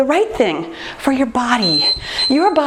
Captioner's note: time beeping